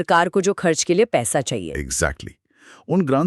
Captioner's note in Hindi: नाक से की जाने वाली आवाज़